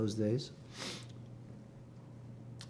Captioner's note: sniffling